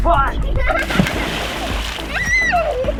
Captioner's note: water splashing; laughing excitedly